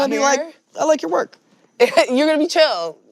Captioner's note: chuckkles